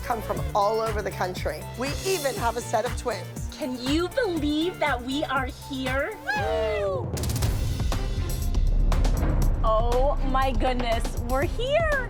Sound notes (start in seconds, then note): 5.9 howling